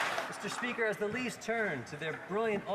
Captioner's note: cheering and Applause